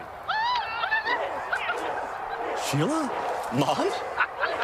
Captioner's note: excitedly cheers